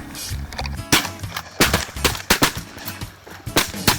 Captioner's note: gun fires